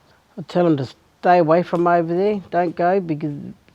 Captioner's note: none